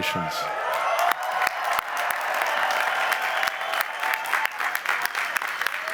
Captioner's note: cheering and applause